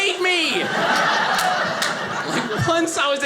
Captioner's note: audience laughing